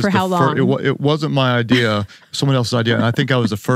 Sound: chuckles

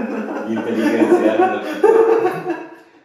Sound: laugh

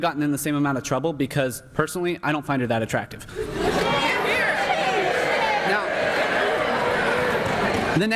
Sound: laughter and here here

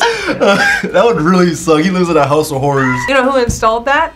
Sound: laughs

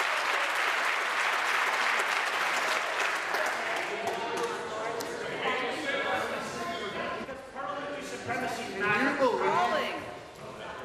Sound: applause

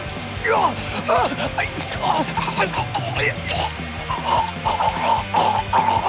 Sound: Ponce groaning and gurgling

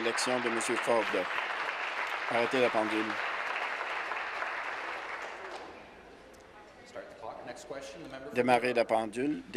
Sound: applause

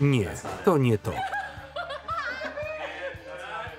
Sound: laughing

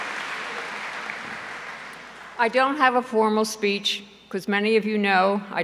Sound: applause

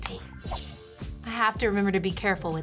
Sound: wand chimes

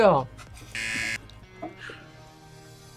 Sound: buzzer

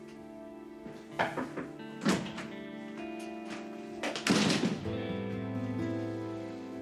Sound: knocking

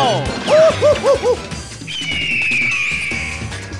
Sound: eagle Call

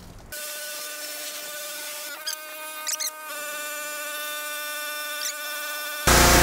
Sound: sped up pressure washer engine whirring; pressure washer engine whirring

